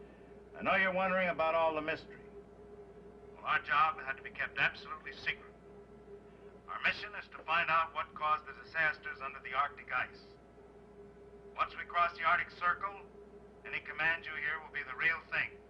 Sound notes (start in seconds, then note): 3.4 Wendover On P.A